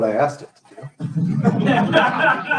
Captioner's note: laughter